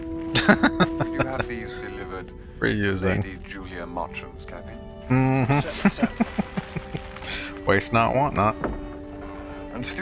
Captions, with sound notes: [Laughing] Reusing. Mm-hmm. [Chuckling] Waste not, want not.